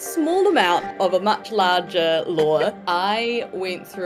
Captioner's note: Ruby laughs